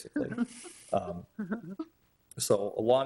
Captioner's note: people chuckling